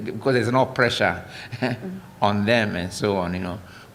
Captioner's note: laughter